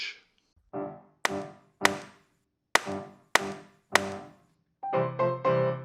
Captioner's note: gavel hammering